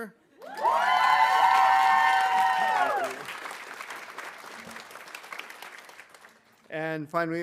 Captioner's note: audience cheering; audience applauding